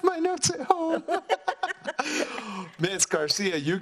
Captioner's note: laughs